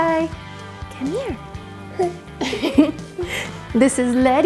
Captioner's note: giggles